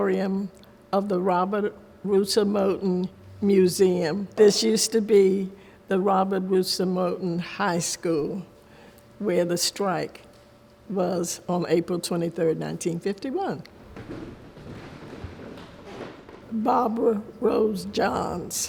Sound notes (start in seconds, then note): 13.8 footsteps thud